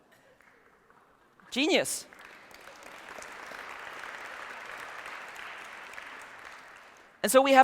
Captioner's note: weak applause